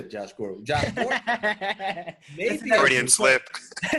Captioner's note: laughing; laughing